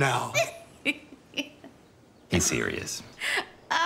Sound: laughs

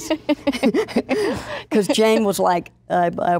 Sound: laughing

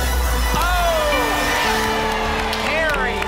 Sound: applause and cheering

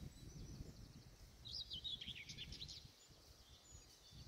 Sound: birdsong

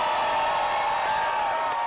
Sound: cheers and Applause

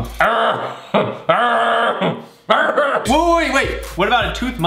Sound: growling

